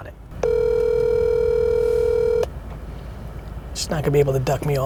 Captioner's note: phone ringing